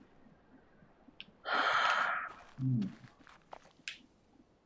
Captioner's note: sighs